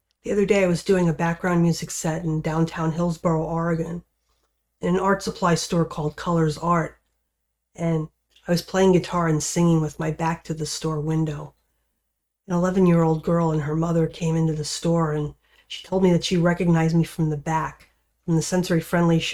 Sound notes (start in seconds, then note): none